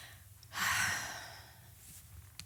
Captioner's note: deep sigh